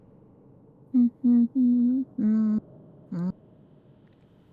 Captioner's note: humming; humming